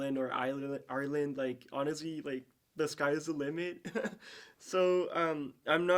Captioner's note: chuckles